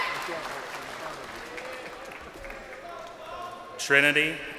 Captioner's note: crowd cheering